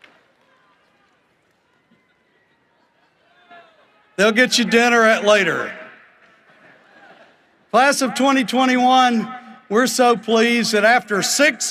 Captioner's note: cheering and applause